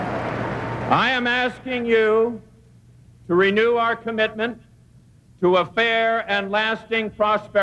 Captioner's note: crowd cheers